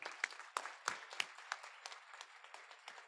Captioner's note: applause